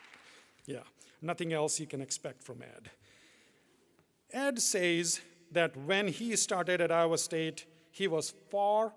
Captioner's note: applause